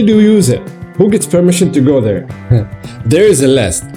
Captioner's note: laughing